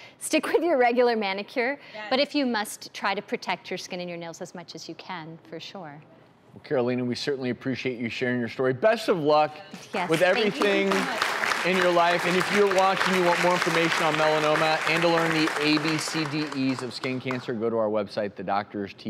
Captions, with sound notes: Stick with your regular manicure, but if you must, try to protect your skin and your nails as much as you can, for sure. Karolina, we certainly appreciate you sharing your story. Best of luck, with everything. (clapping) Thank you so much. In your life, and if you're watching, you want more information on melanoma, and to learn the ABCDEs of skin cancer, go to our website thedoctorstv.com.